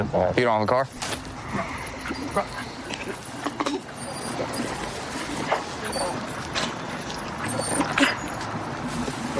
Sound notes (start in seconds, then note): 5.4 dog whining